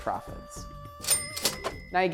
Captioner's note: cha-ching!